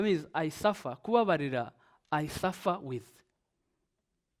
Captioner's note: speaks in Kinyarwanda